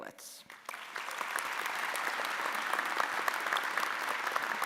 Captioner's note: audience applauding